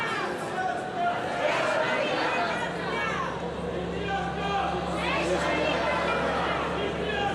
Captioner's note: crowd continues to chatter in foreign language